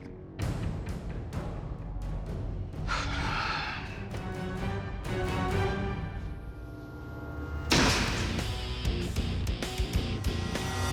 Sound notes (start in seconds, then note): 0.3 dramatic music playing; 2.8 sharp exhale; 7.7 intense music playing